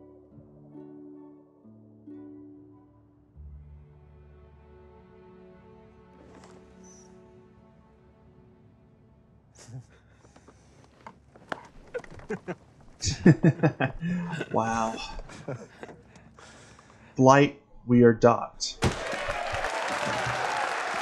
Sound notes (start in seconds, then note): 9.5 both chuckle; 11.7 both laugh; 18.8 cheers and applause